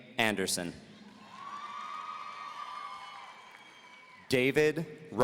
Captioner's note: audience cheering